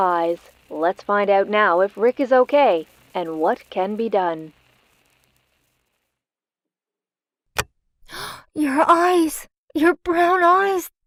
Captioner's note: gasp